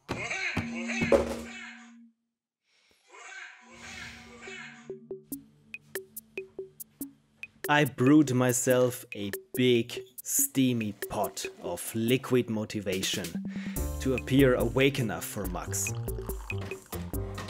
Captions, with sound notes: [angry-clown laugh alarm rings still] I brewed myself a big steamy pot of liquid motivation to appear awake enough for Max.